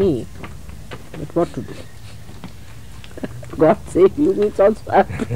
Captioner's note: laughs